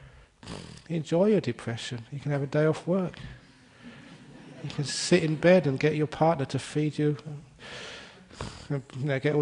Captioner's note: laughter